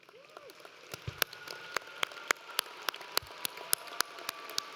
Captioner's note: audience applauds